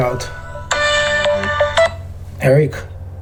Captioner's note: phone ringing